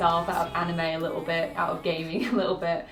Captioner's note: laughs